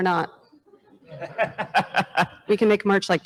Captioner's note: laughs